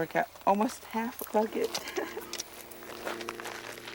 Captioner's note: laughs